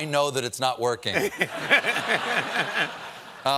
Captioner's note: laughter